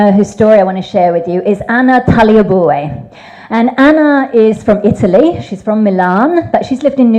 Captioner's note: none